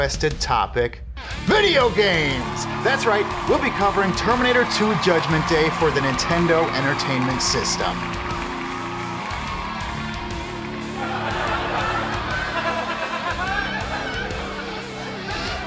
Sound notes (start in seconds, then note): 10.8 audience cackling